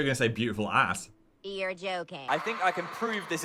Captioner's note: automated Voice